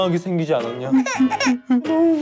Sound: sobbing

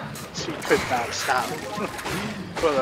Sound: chuckles

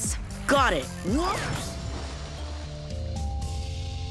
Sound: splash

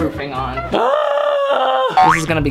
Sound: exasperated groan

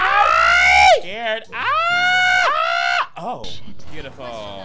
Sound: screaming

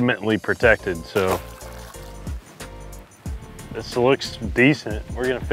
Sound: water splashing

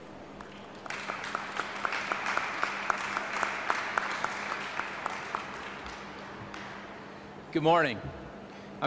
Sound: clapping

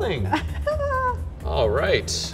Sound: laughs

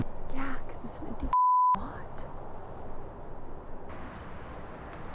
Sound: beep

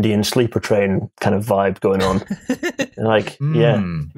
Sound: laughs

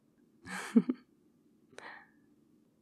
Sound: laughs

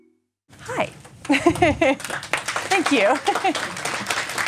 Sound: applause

